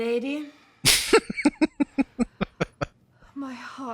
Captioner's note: laughing